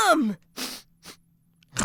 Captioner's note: sniffing/chomping